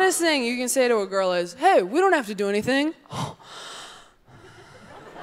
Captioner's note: gasps; audience laughing